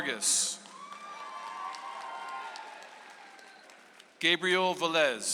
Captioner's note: audience applauds